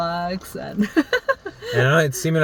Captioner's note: laughing